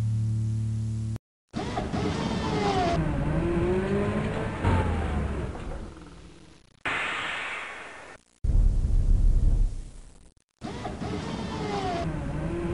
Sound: machine shop noises

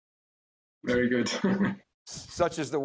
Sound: chuckles

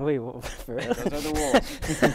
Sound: laughs

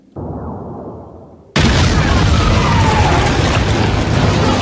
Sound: explosion

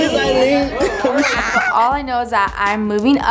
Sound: laughing

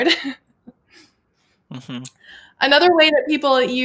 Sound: laughs

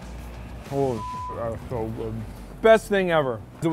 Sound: beep

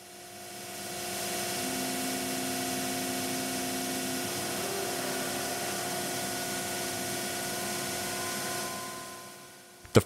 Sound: machine moves to place and then cuts

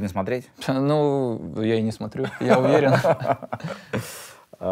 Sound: both laugh

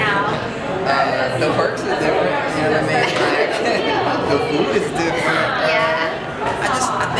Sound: laughs

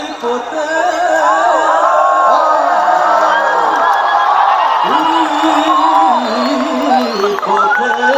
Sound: applause

